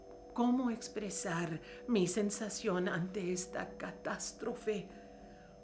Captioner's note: speaking in foreign language